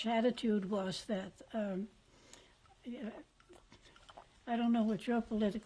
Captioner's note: pauses for 3 seconds